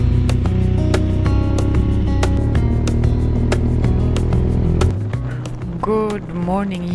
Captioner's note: motorbike roaring; upbeat music